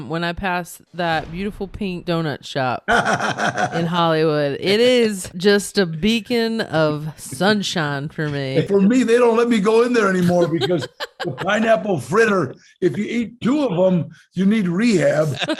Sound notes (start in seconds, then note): 2.8 Danny laughs; 10.1 laughing